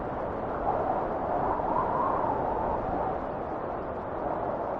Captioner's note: wind whistling continues